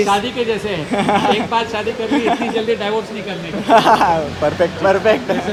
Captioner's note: laughs